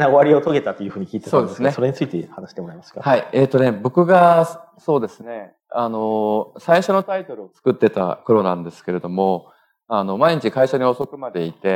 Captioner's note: speaking japanese